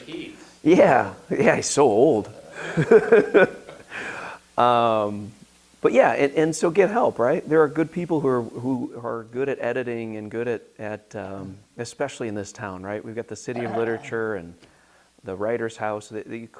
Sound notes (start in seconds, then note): 2.4 laughs